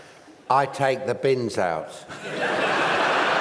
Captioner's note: flat, boring voice